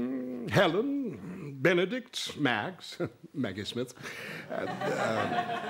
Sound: chuckles

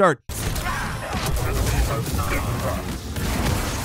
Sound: characters fighting

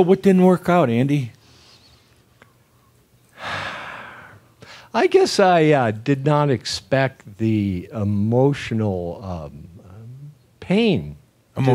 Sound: sighs deeply

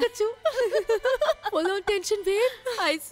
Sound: giggling

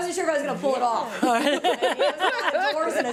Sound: audience laughs

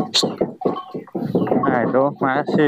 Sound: laughs

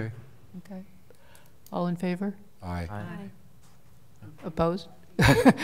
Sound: multiple voices

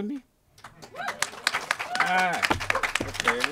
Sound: crowd claps

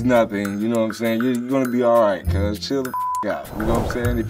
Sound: beep

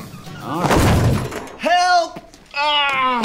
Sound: thump; groaning

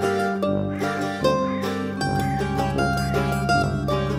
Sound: crow cawing

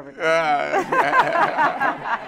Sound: laughter

